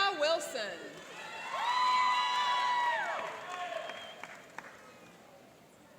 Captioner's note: cheering and applauding